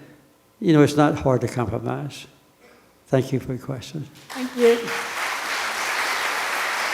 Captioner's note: applause from the audience